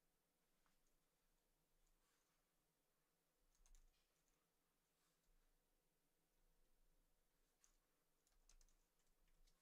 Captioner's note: mouse clicking